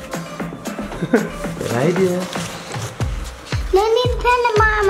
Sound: upbeat music; giggles

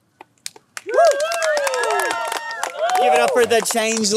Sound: cheering, applause

